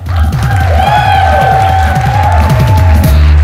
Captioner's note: audience cheers and applauds